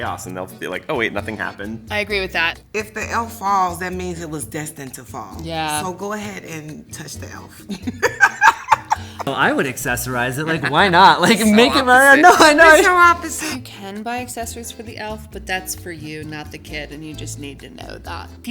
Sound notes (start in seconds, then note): 7.6 laughs